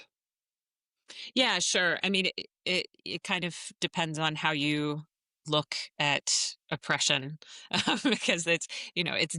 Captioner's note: laughs